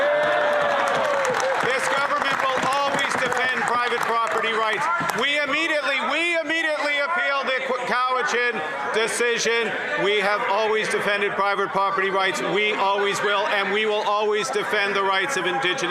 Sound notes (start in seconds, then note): 5.8 some Applause